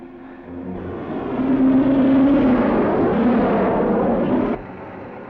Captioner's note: jet roaring